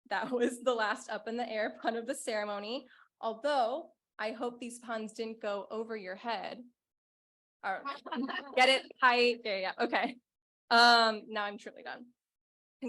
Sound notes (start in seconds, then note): 7.9 laughing